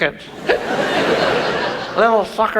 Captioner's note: audience laughs